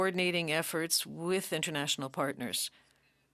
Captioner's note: speaking French